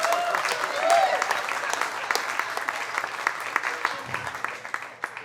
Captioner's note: audience applauding and cheering